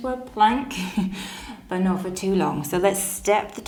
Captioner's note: laughs